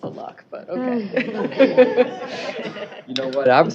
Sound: laughter

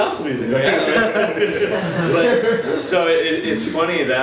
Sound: audience laughs

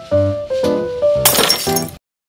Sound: glass breaking sound

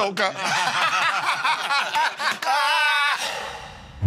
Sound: laughter

